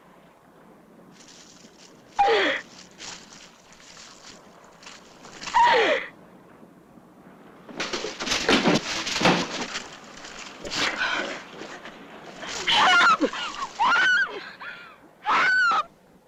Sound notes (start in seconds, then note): 7.8 kicks